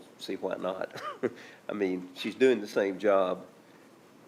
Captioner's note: chuckles